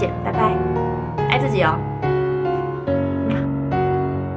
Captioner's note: kiss